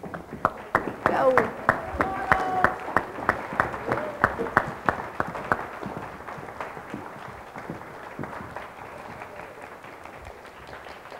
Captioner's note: audience clapping